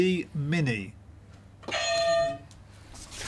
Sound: clang

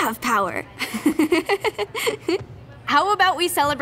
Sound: both girls laugh

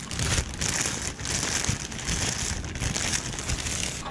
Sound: packaging tingle

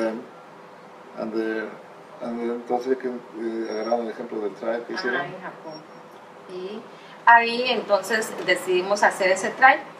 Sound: asks in Spanish for further details

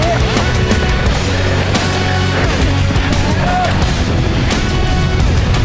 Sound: crowd; uplifting music; crowd; uplifting music

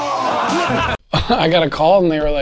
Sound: crowd laughs; chuckles

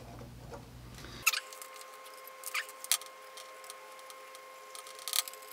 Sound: tape fast forward warble

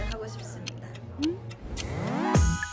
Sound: hum

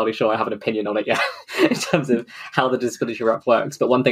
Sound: laughs

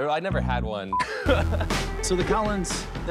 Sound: laughs

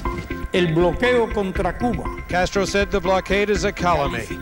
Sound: speaking in Spanish

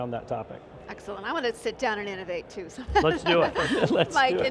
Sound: laughs

